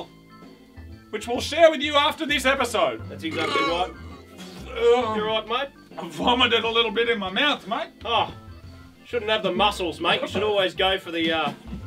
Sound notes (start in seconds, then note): 3.2 burps